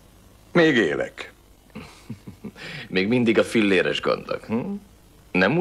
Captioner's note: chuckles